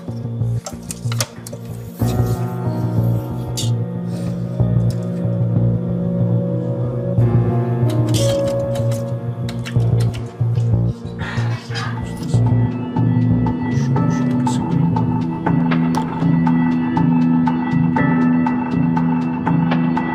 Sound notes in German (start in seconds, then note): 0.1 Unheilvolle Musik; 10.9 Flüstern, Klappern; 15.7 Spannungsvolle Musik